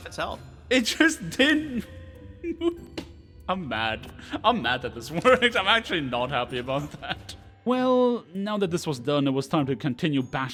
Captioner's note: malding noises